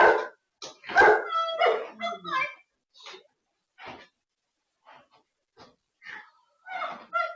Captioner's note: screaming